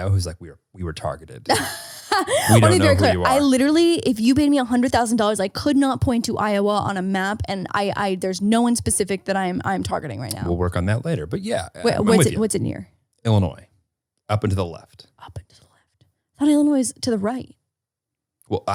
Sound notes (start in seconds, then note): 1.5 laughing